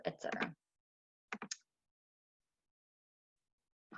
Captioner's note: typing